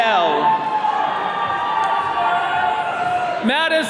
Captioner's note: attendees cheering